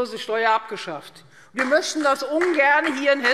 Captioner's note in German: Beifall Freie Demokraten